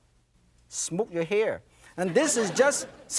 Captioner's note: laughter